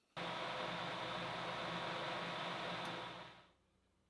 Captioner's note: machine whirring